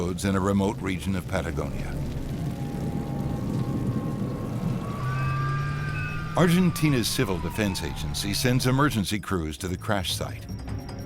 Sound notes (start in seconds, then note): 1.2 humming; 1.2 sirens